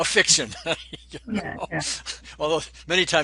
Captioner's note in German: lacht